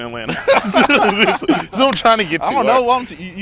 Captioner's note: laughs